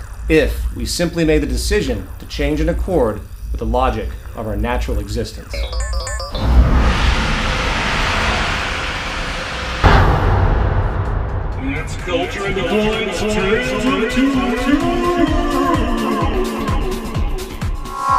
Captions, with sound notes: if we simply made the decision to change in accord with the logic of our natural existence. [Poof!] [Ghostly voice] It's Culture in Decline's 'Tale of Two Worlds'.